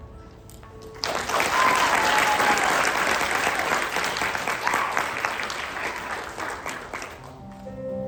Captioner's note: applause